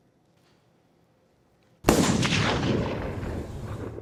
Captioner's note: gunshot